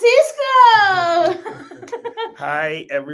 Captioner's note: laughs